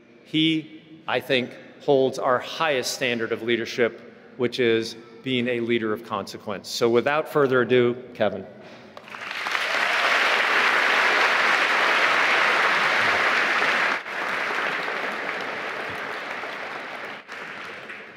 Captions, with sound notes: - He, I think, holds our highest standard of leadership which is being a leader of consequence. So, without further ado, Kevin. (applauding)